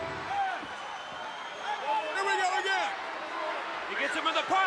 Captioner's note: applause